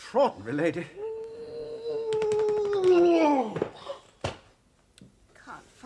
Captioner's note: howls